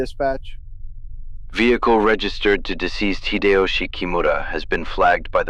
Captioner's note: radio